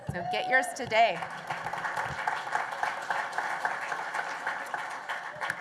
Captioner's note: applause